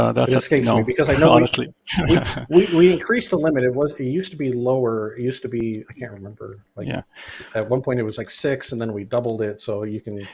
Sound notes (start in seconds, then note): 1.9 laughs